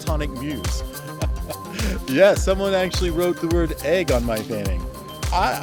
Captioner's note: laughs